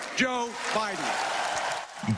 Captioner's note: applause